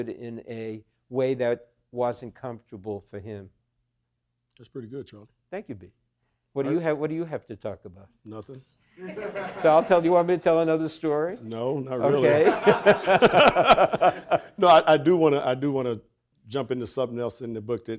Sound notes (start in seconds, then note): 9.0 audience laughing; 12.1 audience laughing; 12.1 both laughing